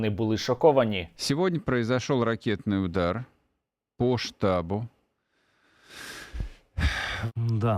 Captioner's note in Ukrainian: зітхає